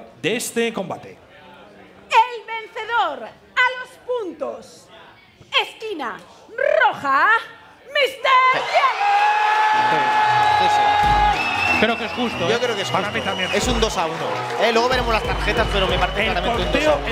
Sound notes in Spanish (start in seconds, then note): 10.5 Gritos